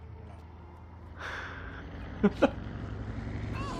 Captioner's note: laughs